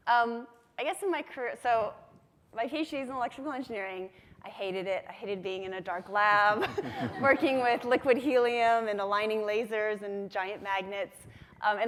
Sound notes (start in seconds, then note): 6.5 everyone laughs